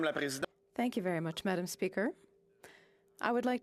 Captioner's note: speaking French